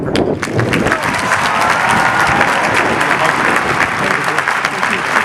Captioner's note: audience applauding